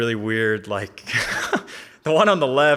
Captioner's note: laughing